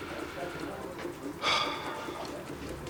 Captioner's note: sighs